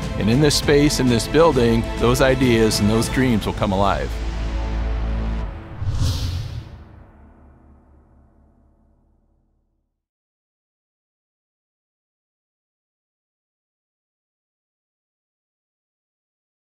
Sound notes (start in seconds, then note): 5.5 air whooshing